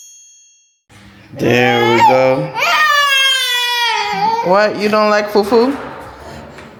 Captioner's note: screaming and crying